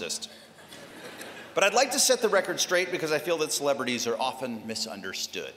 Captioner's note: laughter